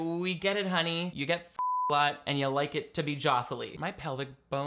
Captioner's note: beeping